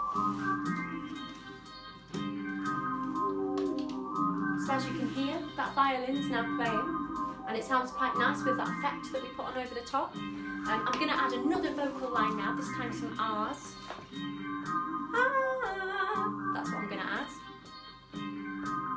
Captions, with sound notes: So as you can hear, that violin's now playing. And it sounds quite nice with that effect that we put on over the top. I'm going to add another vocal line now. This time some Ahs. (Vocal 'Ah') That's what I'm going to add.